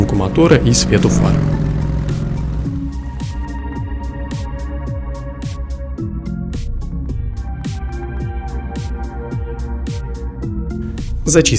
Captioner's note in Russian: звук мотора и кадр со светом фар